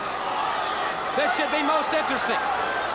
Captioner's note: crowd chatter